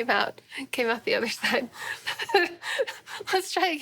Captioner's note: laughing